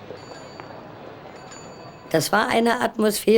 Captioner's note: bicycle bell dings; speaking german